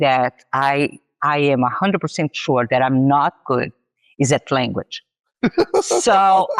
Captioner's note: laughs